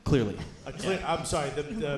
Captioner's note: audience cheering